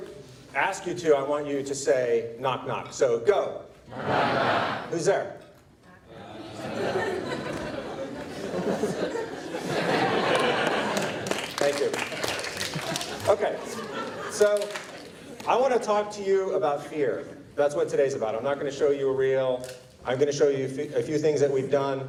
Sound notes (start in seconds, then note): 6.1 audible laughter from the crowd